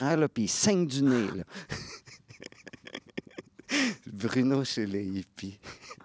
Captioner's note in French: rires; rires